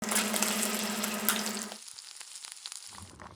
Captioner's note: sizzling sound